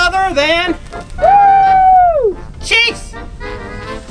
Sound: Chase cheering

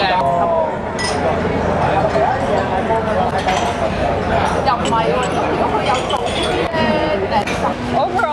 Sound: loud chattering and clinking of ceramic ware

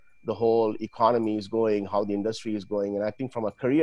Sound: laughs

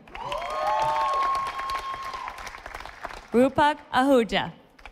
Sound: audience applauding

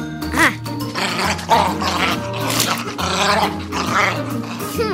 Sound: dog playing Ruff

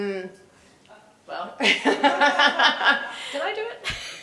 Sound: laugh

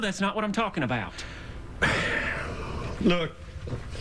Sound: sighs

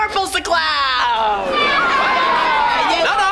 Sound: cheering

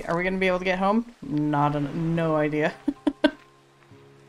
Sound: laughs

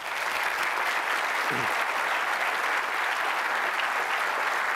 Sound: applause

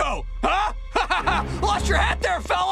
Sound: laughing

